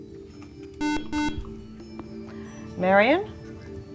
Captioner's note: beeping